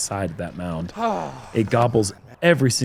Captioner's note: sighs